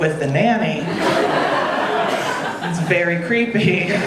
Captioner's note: audience laughing